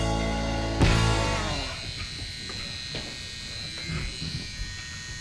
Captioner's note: tattoo gun buzzing